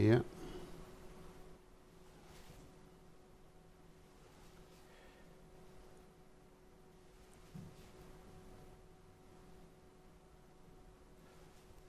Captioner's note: silence